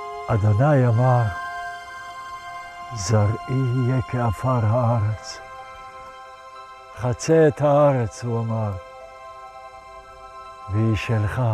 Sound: speaking in Hebrew

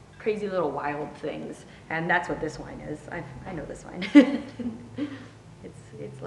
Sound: laughs

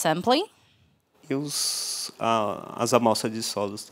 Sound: non-english speech

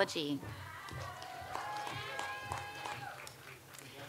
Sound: audience applauds

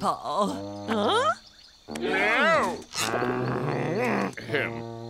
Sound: growling

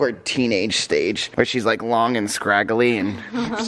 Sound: laughs

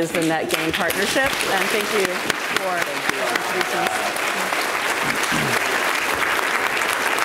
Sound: audience applauds

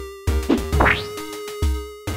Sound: whoosh; squelch

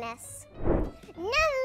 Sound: air swish

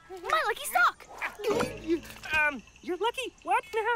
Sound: gulps

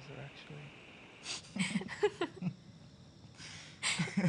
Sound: laughter

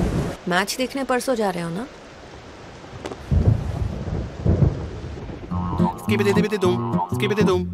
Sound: non-english speech

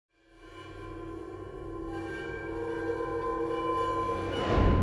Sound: abstract metallic sounds

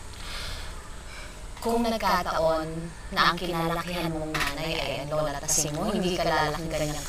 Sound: sighs

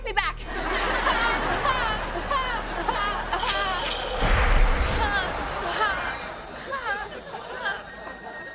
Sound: crying

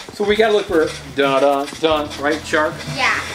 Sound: hums the Jaws theme

